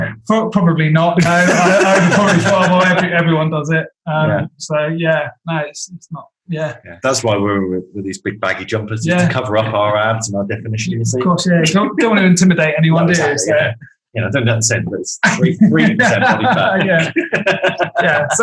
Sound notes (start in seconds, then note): 1.2 group laughing; 17.7 laughs